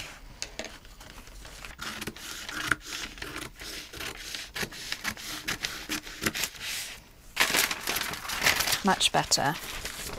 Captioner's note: scissors snipping; pencil scratching